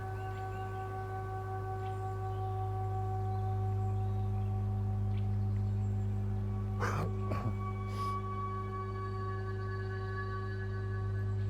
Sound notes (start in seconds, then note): 6.8 clears throat